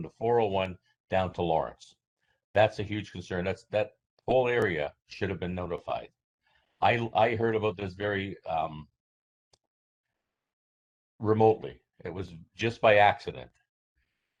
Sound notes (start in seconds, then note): 5.9 audio drops